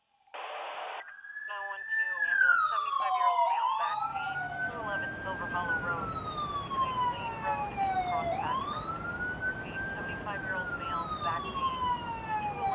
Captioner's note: operator and Sirens